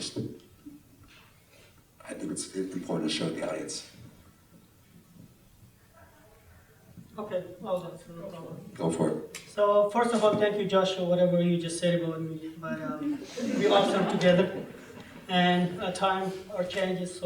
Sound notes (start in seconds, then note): 13.1 laughter